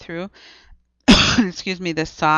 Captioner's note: coughs